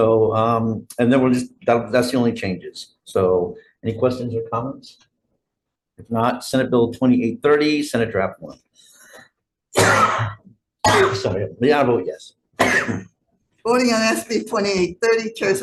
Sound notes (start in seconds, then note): 9.9 cough